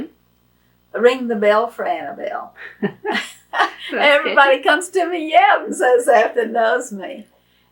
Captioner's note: laughs